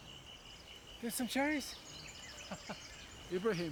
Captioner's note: chuckles